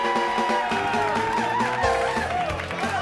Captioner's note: crowd chattering